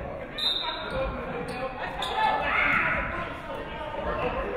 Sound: referee whistles

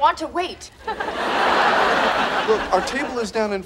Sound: audience laughing

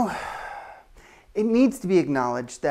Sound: sighs

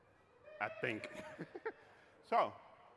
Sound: laughing

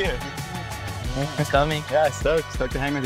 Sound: mumbles

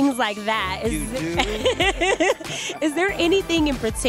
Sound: laughter

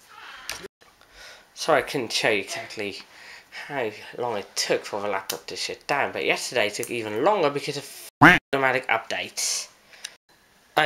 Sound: quack

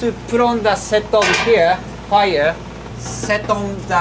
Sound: hagama clanking

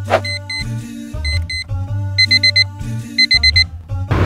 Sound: alarm beeping

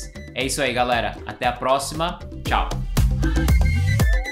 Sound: speaks in foreign language; upbeat music

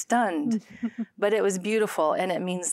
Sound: giggling

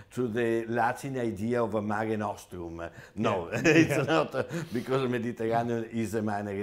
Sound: laughs

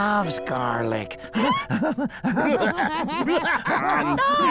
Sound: laughing

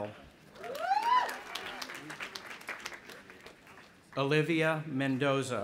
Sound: audience applauding and cheering

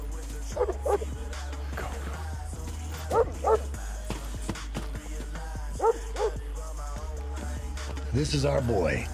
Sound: dog barking

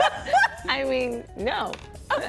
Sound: laughter

